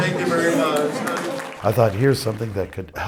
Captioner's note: audience claps